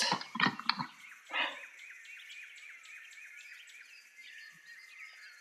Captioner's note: birds chirping